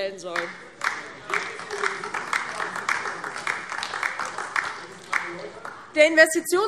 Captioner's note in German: Beifall DIE LINKE